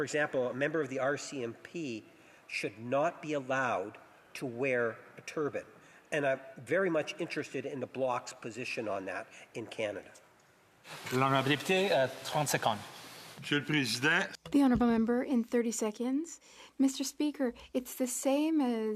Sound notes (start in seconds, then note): 15.8 speaking French